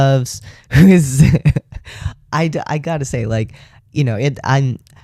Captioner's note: laugh